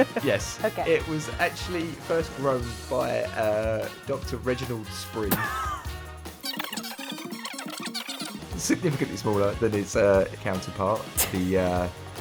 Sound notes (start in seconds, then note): 5.3 laughs; 6.4 tape fast-forwards